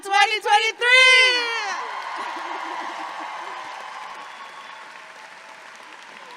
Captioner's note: audience clapping and cheering